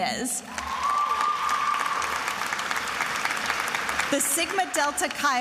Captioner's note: attendees applauding and cheering